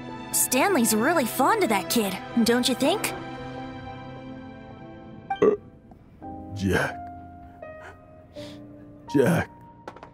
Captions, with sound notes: Stanley's really fond of that kid, don't you think? *hic* Jack? Jack!